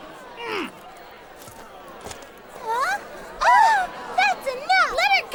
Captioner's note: general grunts